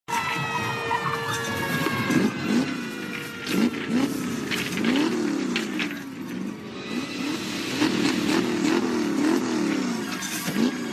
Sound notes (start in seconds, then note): 0.1 siren blaring; 2.1 engine revving; 2.1 siren blaring; 4.7 engine revving